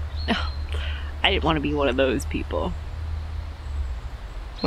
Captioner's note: scoffs